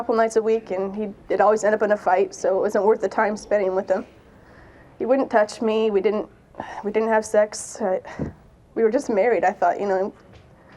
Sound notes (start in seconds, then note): none